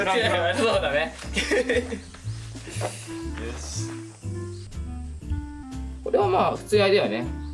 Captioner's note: laughs